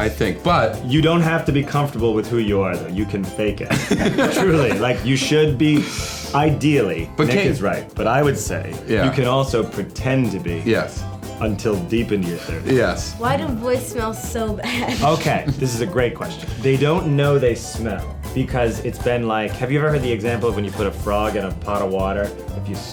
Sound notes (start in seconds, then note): 3.6 Nick laughing; 14.8 Nick laughing